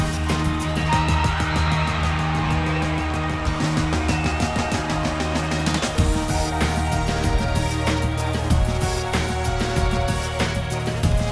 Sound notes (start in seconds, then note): 1.4 crowd cheering